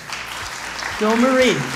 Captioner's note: crowd applauding